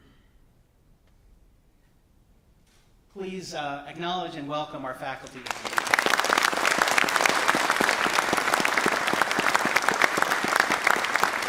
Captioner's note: applause